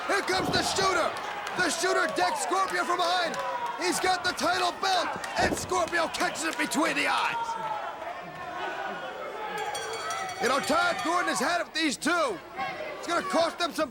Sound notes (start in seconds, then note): 8.5 crowd chatter; 9.5 bell ringing